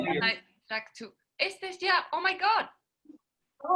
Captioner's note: exclaims in spanish, then in english